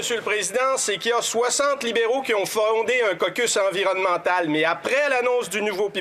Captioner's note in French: voix de l'interprète